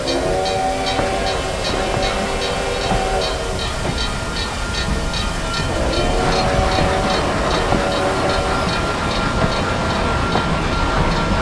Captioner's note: American Freedom Train GS4 Steam Whistle